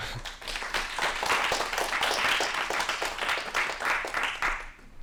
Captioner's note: applause